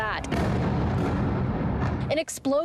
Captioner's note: explosion